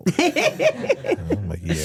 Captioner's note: Stephanie laughs